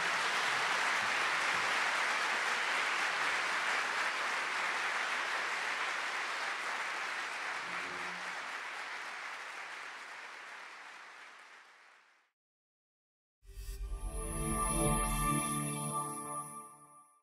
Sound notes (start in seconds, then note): 2.3 applause